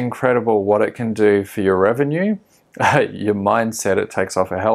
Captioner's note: laughs